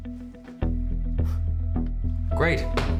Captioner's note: soft scoffing